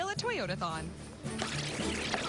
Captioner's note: tape rewinding